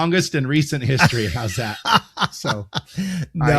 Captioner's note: laughing